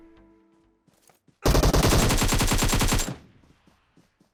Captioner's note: gunshots